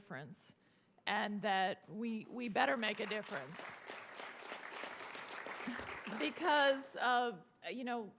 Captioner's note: applause